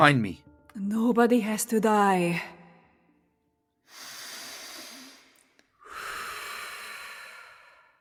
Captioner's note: deep breathing